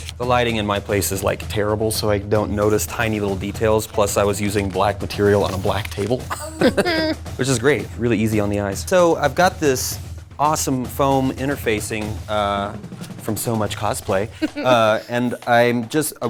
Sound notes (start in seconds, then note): 6.2 laughing